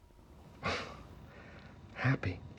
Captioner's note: chuckles